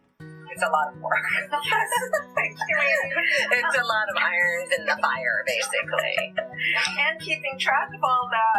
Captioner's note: laughter